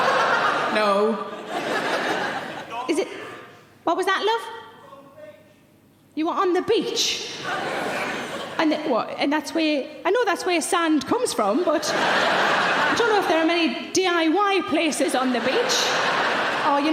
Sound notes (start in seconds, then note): 0.1 Sarah laughs; 7.4 audience laughing; 14.9 audience laughing